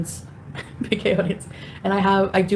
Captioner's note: chuckling